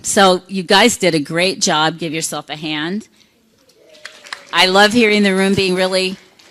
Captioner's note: applause